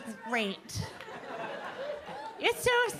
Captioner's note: audience laughing